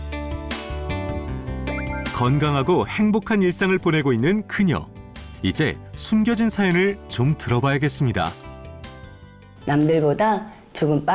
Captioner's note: voiceover